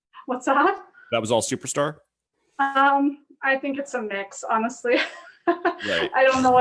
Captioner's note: laughs